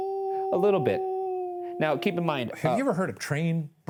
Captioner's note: continues howling